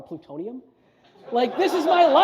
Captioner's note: audience laughs